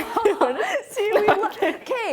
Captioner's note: laughing